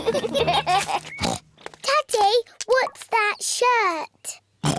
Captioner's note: oinks; oinks